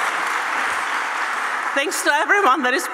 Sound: applause

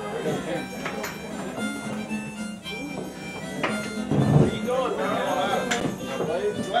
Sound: harmonica music; people chattering

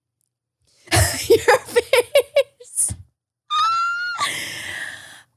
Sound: laughs

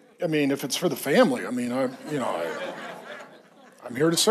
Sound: congregation laughs

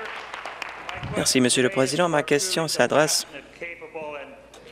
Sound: applause

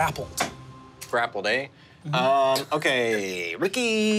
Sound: laughing

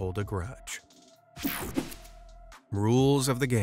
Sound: screen whooshing

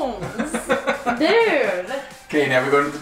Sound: laughs

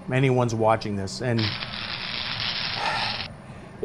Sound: more electric crackling

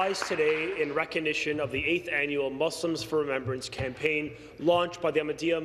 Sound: some Applause

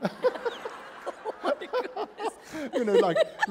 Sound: laughter

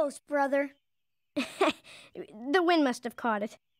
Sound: nervous laughing

